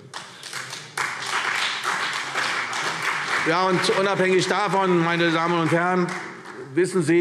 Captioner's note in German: Beifall CDU und BÜNDNIS 90/DIE GRÜNEN